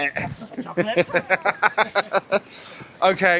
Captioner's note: laughing